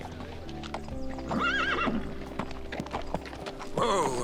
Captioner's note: horse neighing